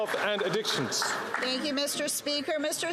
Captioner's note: some Applause